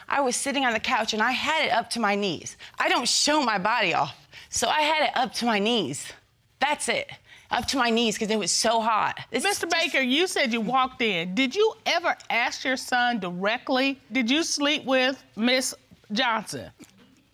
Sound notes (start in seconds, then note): none